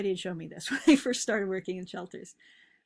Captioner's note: chuckles